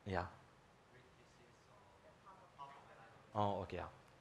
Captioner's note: faintly speaking